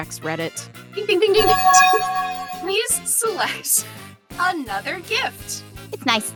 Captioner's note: bell chimes